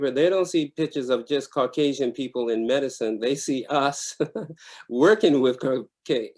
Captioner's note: laughs